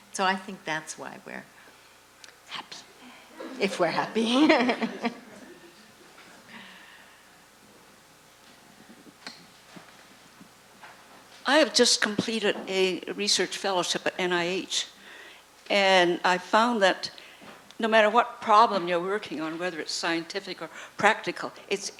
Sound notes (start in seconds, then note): 4.2 laughter; 11.6 voiceover